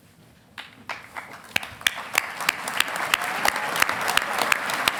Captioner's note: audience applauding